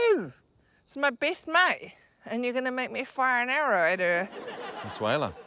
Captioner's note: laughter